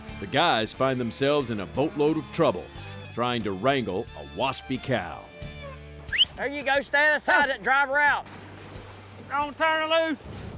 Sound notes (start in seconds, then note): 6.1 whistling; 8.3 splashing